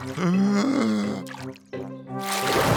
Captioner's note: takes a deep breath